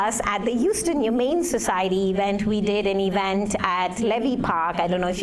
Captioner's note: none